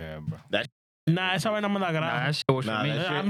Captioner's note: speaking In Spanish